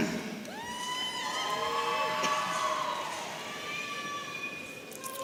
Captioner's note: audience cheering